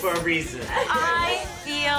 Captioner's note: laughter